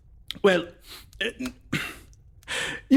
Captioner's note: stutters